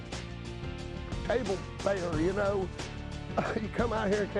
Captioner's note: laughs